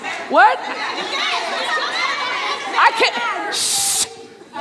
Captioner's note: audience murmuring